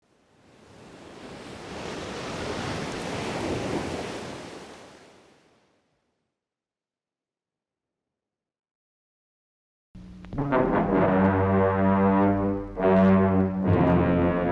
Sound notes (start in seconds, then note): 0.6 waves crashing; 10.0 mysterious music